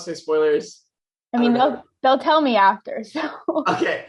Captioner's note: chuckles